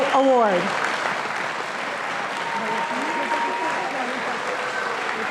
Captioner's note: audience applauding